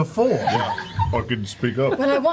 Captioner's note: laughter